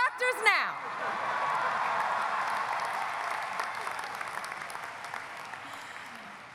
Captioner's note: audience applauding; audience cheering